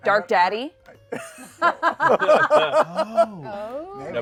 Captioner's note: laughter